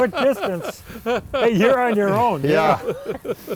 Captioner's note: laughs